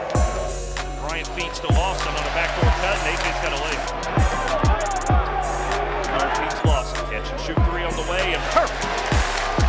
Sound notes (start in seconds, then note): 4.2 crowd noise